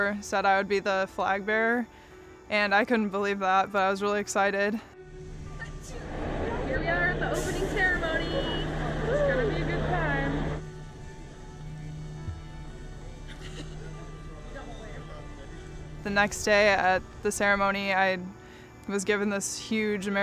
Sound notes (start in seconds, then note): 13.2 laughing